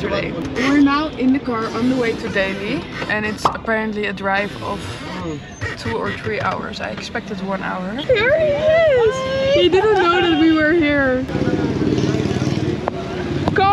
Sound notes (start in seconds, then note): 4.3 sorry for the squeaky window sound